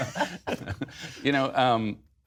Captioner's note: laughter